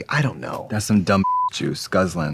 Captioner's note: beeping